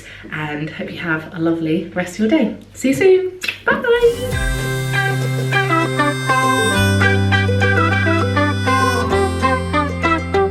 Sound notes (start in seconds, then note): 3.5 smooches; 4.0 cheerful upbeat music